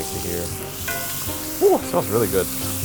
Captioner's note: pan sizzling